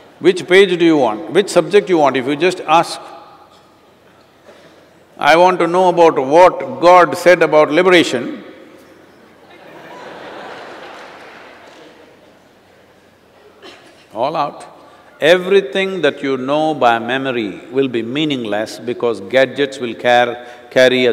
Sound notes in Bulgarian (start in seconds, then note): 13.0 смях